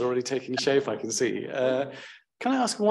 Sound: laughs

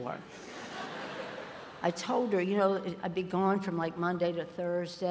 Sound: ~laughter~

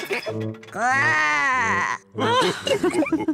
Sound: laughs; growls; all laugh

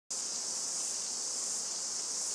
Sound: cicadas chirping

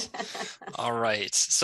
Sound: laughing

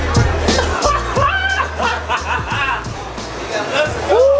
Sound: laughter

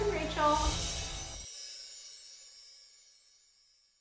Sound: chimes tinkling

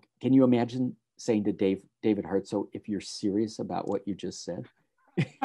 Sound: laughs

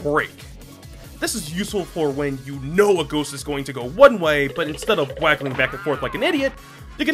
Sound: cartoon skittering sfx

